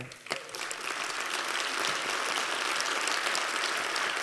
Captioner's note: applause